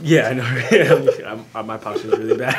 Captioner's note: laughs